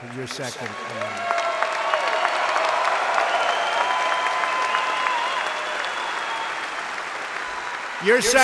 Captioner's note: applause